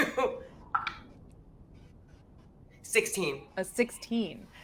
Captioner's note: dice taps